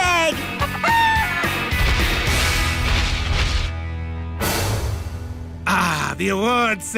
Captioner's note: clucking